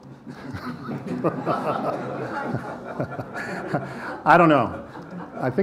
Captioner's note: people laughing lightly